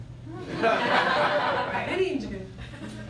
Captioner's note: laughter